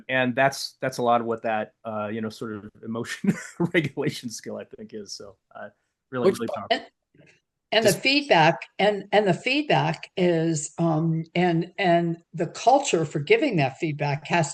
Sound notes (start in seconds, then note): 6.2 audio cutting out